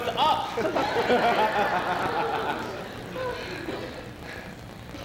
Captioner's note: laughter